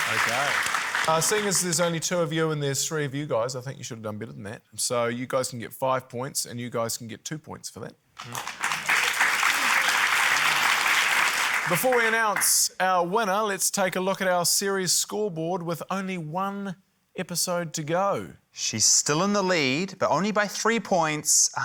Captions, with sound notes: - OK. Seeing as there's only two of you and there's three of you guys, I think you should've done better than that. So you guys can get five points and you guys can get two points for that. (APPLAUSE) Before we announce our winner, let's take a look at our series scoreboard, with only one episode to go. - She's still in the lead, but only by three points ―